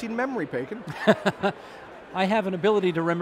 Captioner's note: Steve laughing